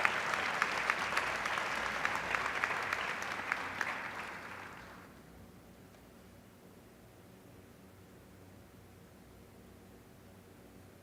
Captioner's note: applause